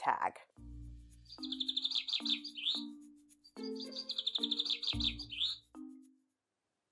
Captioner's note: bird chirping